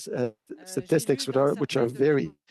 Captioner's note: speaking French